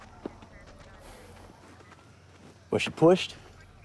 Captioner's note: sighs